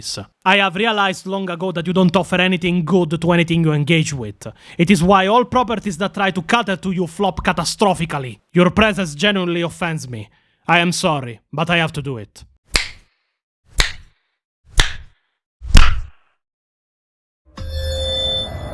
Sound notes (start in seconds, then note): 12.7 snap